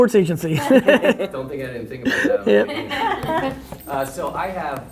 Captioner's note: laughing